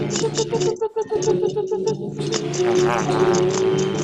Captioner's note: chittering